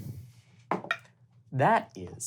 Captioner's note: dice thudding